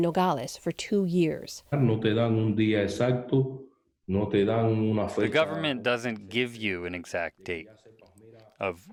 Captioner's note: through translator